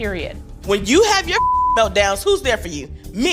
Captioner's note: beep